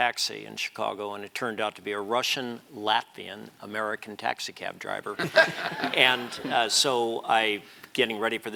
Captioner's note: laugh